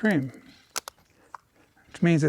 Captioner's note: cracking the lid open